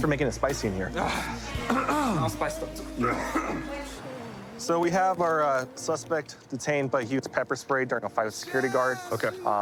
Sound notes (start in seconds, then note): 1.6 clears throat; 2.8 coughs